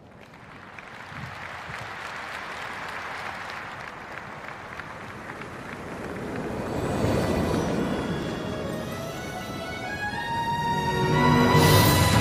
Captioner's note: applause